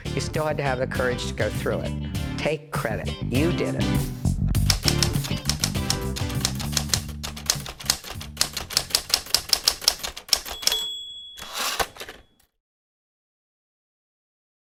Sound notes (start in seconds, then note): 4.4 upbeat music; 4.6 typewriter clicking; 11.3 typewriter pings and whooshes